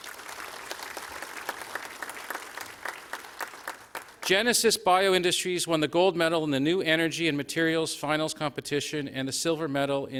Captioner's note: applause